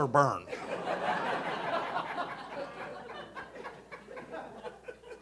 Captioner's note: audience laughing